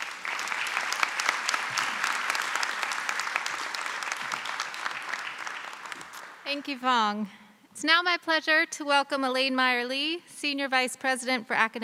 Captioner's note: applause